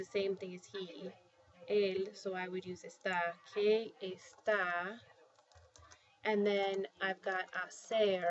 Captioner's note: spanish; spanish